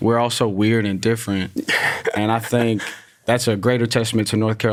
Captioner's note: laughs